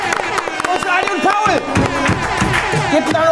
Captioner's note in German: Jubel, Applaus, Hupen